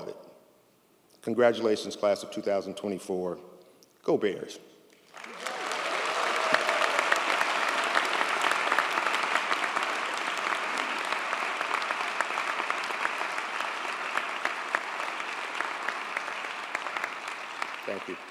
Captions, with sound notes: Congratulations class of 2024. Go Bears. (audience applauds) Thank you.